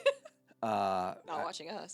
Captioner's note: laughing